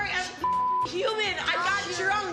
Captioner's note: beep